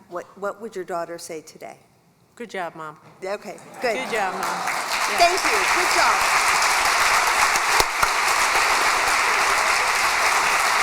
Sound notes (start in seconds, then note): 6.3 applause